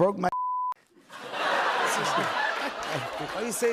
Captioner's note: laughter